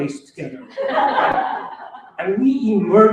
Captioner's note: laughter